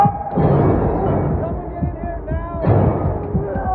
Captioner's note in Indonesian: Berteriak